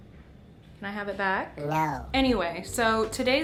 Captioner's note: fake ghost voice